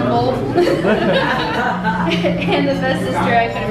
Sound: laughing

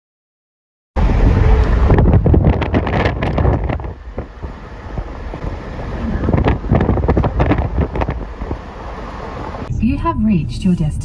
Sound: windy

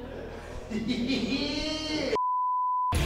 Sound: laugh

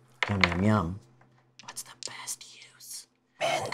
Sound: whispers

